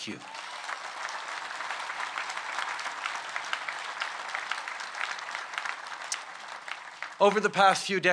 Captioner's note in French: Applaudissements